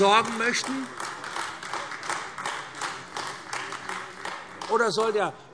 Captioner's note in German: Beifall AfD